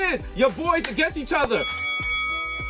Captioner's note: boxing ring bell rings; Mero claps